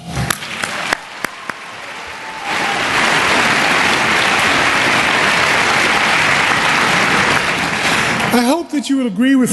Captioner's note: applause